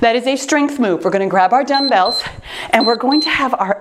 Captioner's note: timer beeps